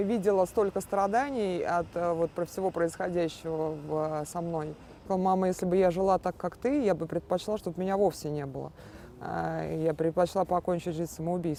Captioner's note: speaking russian